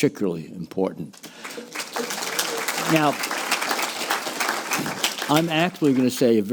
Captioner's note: applause